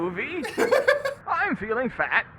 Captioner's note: laughs